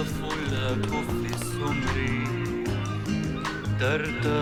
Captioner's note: seagulls crying